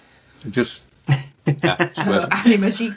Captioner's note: laughter